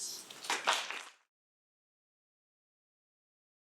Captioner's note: applause